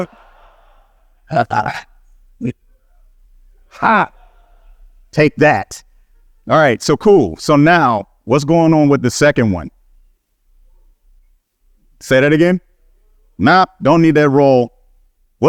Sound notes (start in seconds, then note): 3.7 he exclaims